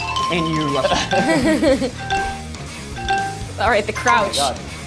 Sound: group laughs

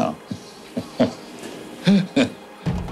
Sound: laughing

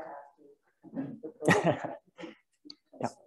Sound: chuckles

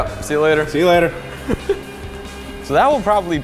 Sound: laughs

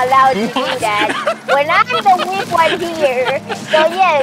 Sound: laughing

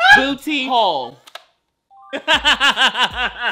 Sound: diary clicks and chimes; laughing

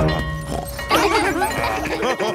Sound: both laughing; daddy pig snorts; school bell ringing; children laughing; daddy pig laughing

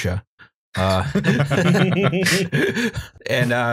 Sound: laughter

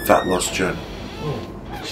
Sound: creeky door

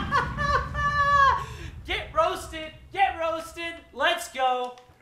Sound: Gary laughs

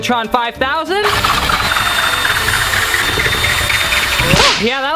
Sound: electric mixer whizzing

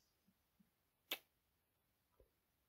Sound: kiss

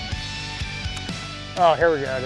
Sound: fishing rod clicks

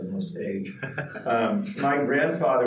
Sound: laughing

